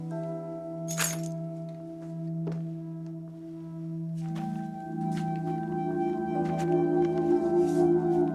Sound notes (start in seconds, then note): 0.9 keys clink